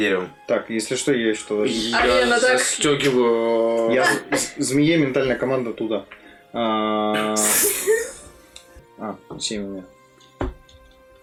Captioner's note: hissing